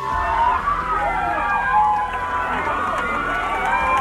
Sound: cheering

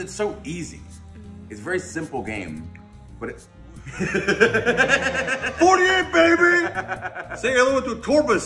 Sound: laugh

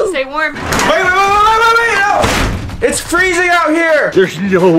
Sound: yells

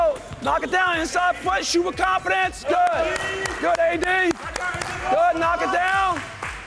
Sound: clapping

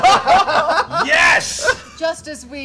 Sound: laughter

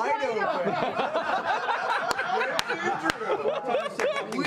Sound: group laughter

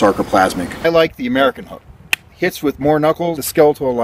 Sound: hand slap

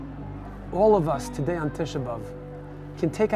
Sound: speaking in a foreign language

